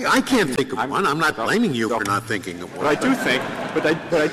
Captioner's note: laughter